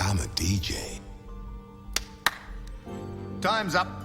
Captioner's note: Harry claps